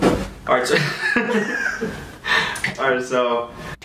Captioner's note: laughs